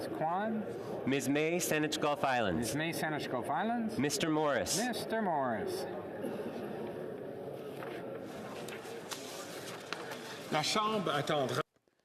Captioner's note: calling of recorded vote